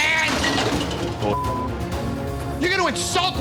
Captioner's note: glass shattering